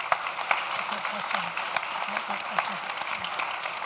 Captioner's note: audience claps